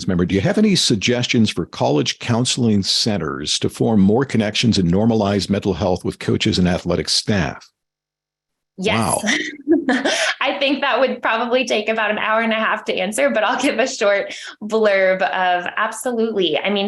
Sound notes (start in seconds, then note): 8.9 laughs